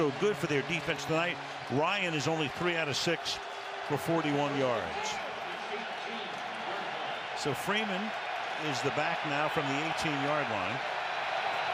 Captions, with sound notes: So far, so good for their defense tonight. Ryan is only 3 out of 6 for 41 yards. [pa announcement] So Freeman is the back now from the 18-yard line.